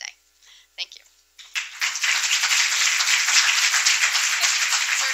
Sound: applause

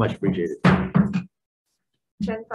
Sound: gavel banging

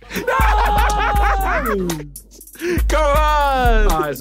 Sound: laughing; screaming; cheering

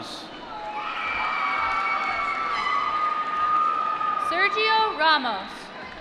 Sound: applause

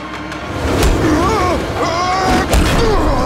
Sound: groaning

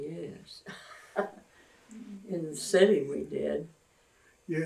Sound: laughs

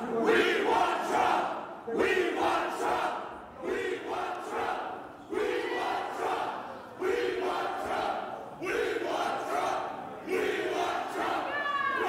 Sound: cheering; chanting

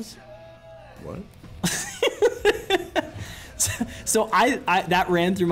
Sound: laugh

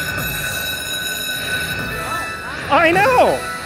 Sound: bell ringing

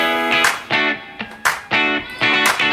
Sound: cheers

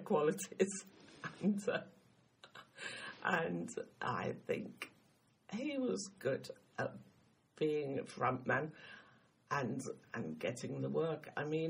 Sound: laughs

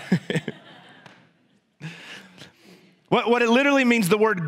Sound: congregation laughs

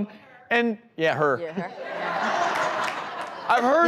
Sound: audience laughing

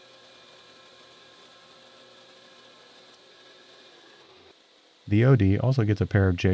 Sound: machine whirling

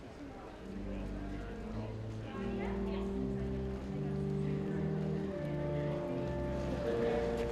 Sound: people chattering; gentle instrumental music

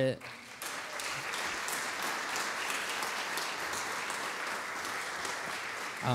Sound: audience clapping

